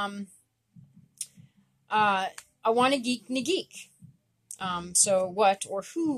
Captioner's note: speaking Abenaki